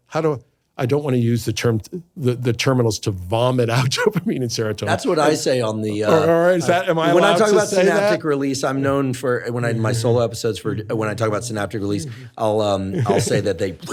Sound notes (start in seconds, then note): 7.9 laughs